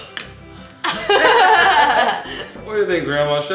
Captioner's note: laughing